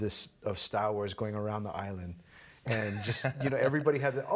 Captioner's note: laughing